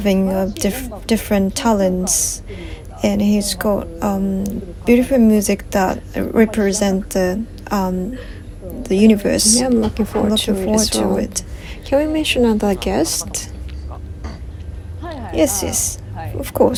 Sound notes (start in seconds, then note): 7.6 laugh